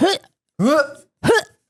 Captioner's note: gag